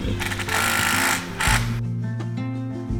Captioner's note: equipment blaring; gentle music